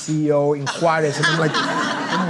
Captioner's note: audience laughing